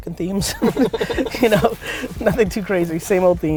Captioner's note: laughs